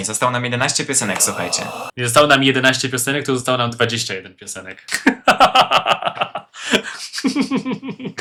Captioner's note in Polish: śmiech